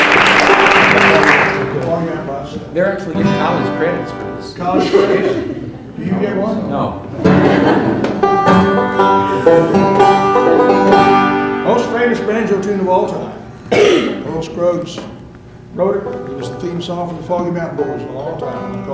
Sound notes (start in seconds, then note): 0.0 applause; 4.6 laughter; 7.1 laughter